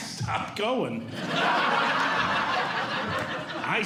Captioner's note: audience Laughing